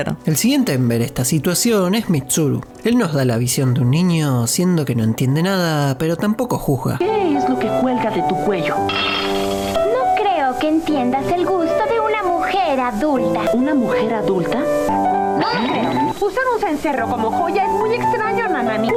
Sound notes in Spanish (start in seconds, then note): 8.9 Sonido cubiertos que caen